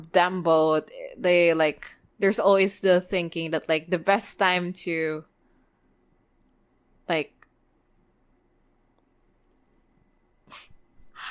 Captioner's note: laughs